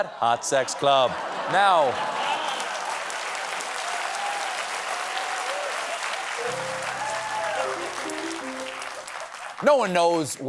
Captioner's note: applause; laughter